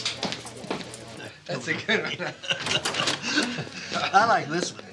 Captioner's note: Wolman laughs